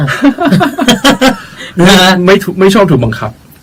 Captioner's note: both laughing